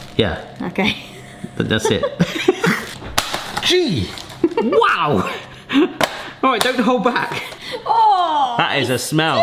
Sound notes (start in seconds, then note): 1.7 chuckling; 1.8 laughing; 4.0 knife slicing package; 4.2 laughing